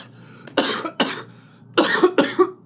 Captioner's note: coughs; coughs harder